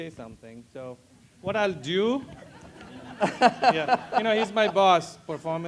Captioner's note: laugh